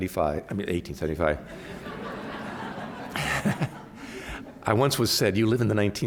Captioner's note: laughter